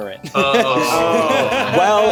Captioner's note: streamers groaning